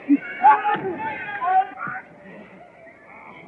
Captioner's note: kicks